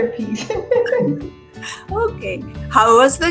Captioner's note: laughing